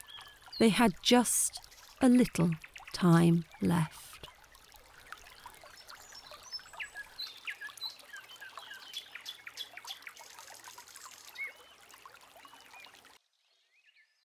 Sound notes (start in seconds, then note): 5.1 bird song; 6.1 brook burbling